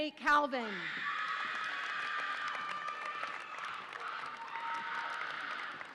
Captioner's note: audience applauds and cheers